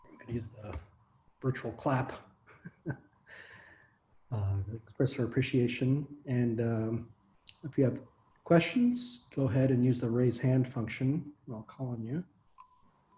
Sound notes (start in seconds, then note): 2.5 chuckles